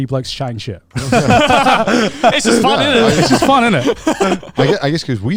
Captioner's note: all laughing